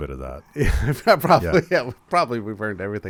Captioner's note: laughs